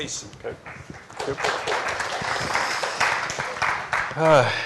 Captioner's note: applause